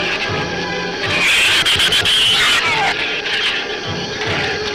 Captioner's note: shrews screech